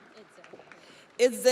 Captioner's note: audience applauds